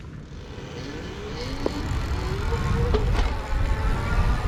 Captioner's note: bike engine roaring